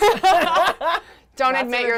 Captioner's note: all laugh